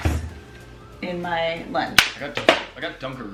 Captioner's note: snapping